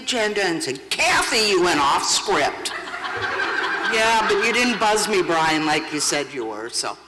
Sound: laughter

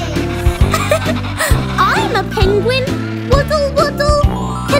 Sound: laughing

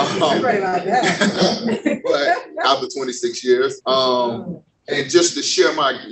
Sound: laughs

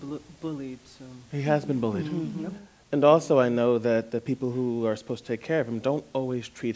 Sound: others agreeing

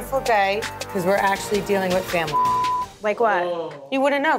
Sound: beep

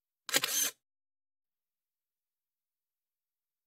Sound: camera shutter

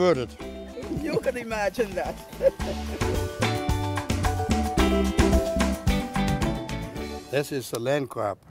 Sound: laughs

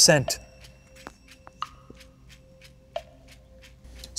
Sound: timer ticking

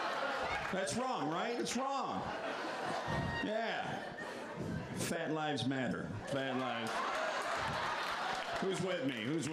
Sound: laughter; laughter

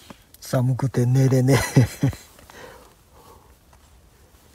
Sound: laughs

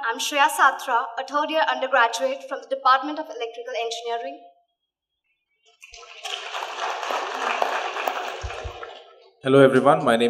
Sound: applause

